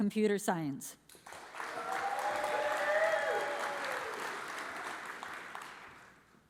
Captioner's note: audience cheers and applauds